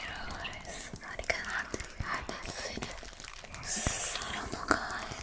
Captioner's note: intelligible whisper